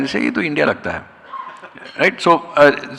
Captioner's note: laughing